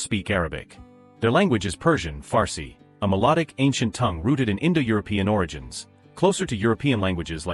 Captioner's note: Farsi